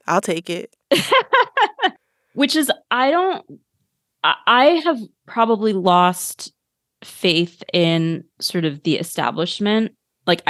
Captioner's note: laugher